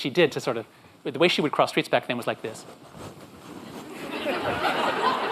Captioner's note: audience laughs